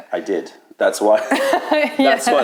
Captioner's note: laughter